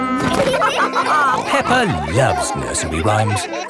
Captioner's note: all laughing